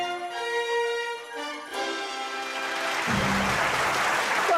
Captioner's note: applause